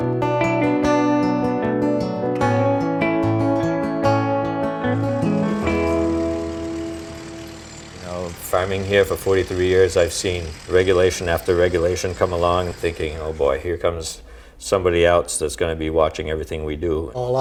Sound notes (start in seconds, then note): 0.0 forlorn bluesy guitar music continues; 5.7 tractor humming